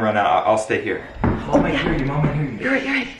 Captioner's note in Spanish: Corre Haciendo Ruido Bajando Las Espaleras